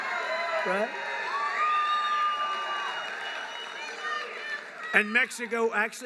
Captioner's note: applause